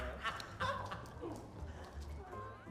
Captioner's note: laughs